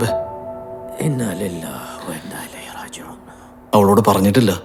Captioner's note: praying in Arabic